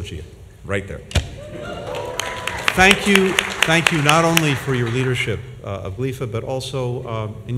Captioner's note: applause